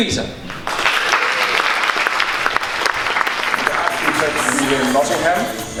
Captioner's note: audience applauding